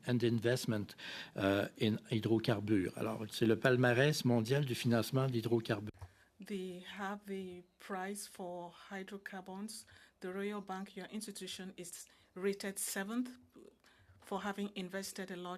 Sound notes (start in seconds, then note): 9.2 speaking French